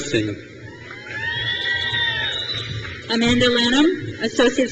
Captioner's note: crowd cheers